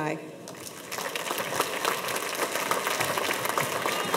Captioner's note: audience applauds